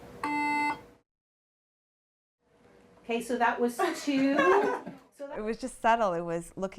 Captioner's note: beeping sounds